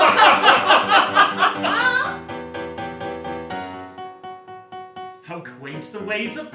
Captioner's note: laughter